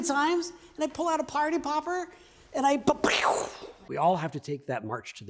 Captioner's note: pew!